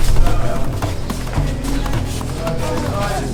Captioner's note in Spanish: Hombres hablan en otro idioma